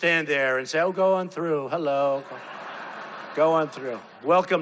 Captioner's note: crowd laughing